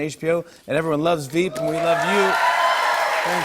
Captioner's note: cheers and applause